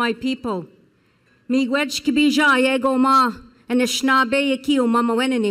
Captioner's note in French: Parlant Anishinaabe